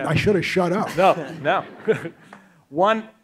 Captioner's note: audience laughs